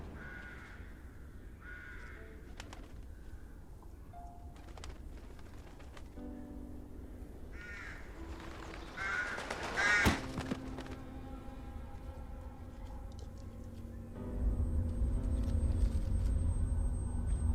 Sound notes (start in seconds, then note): 0.0 sounds of crows cawing; 4.3 wings flutter; 9.7 crow cawing, thud sound